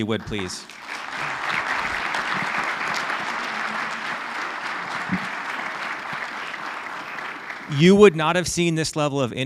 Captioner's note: applause